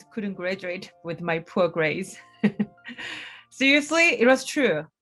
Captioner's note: chuckles